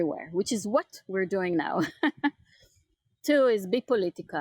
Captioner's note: chuckles